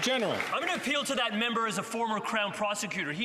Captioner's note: some Applause